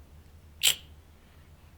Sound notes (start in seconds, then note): 0.6 clicks tongue